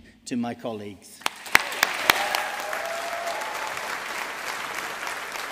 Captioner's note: audience applauding